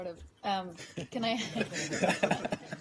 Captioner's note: laughter